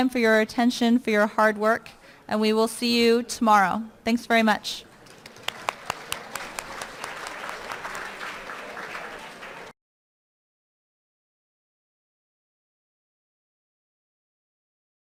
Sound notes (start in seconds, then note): 4.9 applause